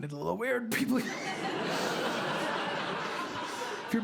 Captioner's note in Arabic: ضحك